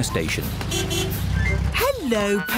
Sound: horn honks

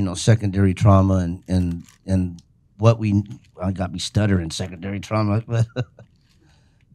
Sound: laughs

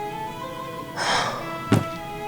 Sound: sigh

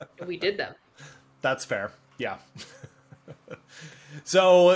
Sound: laughs

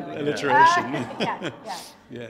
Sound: audience members laughing; laughing

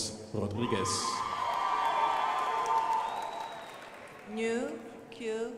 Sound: crowd applauding

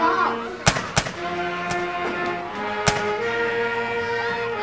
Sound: rifle shots

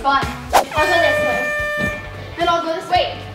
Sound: air horn blows

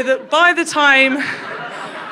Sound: crowd laughs

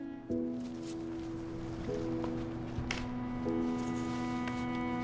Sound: sheet rolling

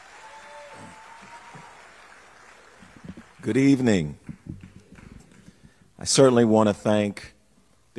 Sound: applause

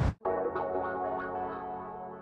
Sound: whoosh

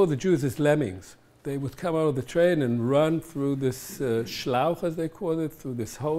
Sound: german

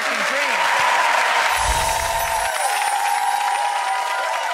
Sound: applause

